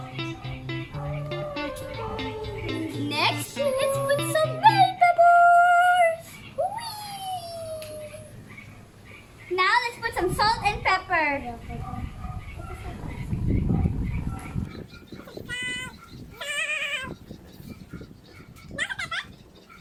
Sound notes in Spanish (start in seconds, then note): 15.0 voz de ardilla